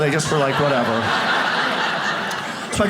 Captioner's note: audience laughs